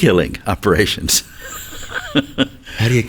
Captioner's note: chuckles